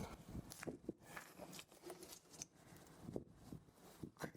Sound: noises while driving the tar with a piece of twig

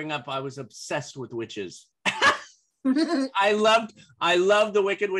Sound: laughter

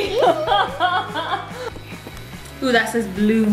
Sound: laughing

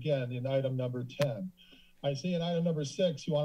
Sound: inhales

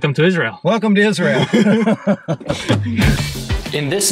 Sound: laughter

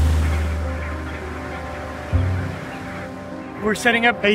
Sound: penguins cawing

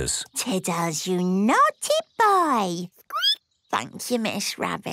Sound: squeaking

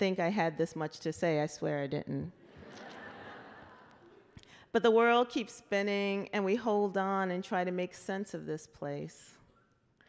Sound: laughter

